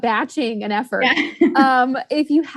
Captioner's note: laughs